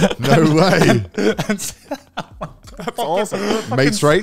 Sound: all laughing

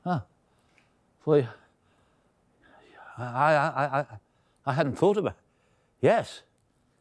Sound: stammering

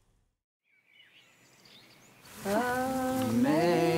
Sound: birds chirping

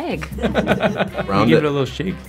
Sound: Jake laughing

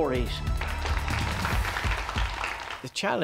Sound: applause

